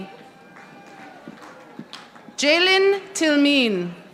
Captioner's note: audience applauding